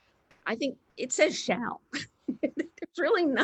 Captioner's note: laughs